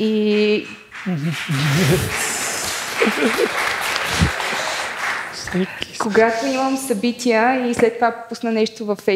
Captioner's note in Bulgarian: аплодисменти